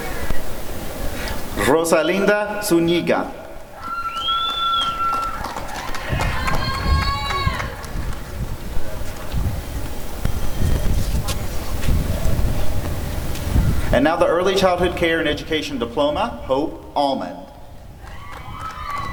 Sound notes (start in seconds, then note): 3.8 applause and cheering; 18.0 applause and cheering